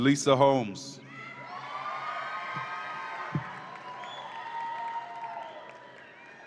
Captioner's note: audience applauds and cheers